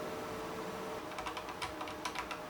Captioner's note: typing noises